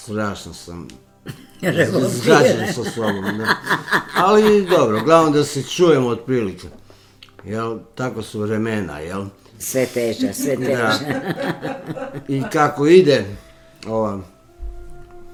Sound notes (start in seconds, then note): 7.0 laughter; 10.2 laughter